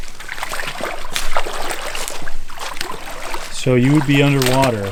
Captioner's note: water sloshing